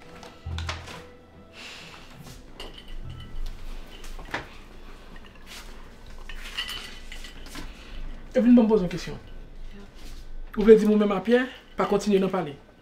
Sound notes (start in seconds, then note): 1.0 sighs